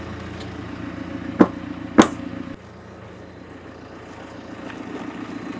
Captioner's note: feet thumping; engine whirring